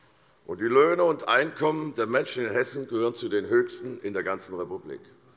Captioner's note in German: none